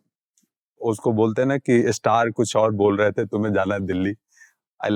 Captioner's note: speaking in Hindi